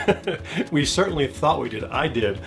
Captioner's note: laughter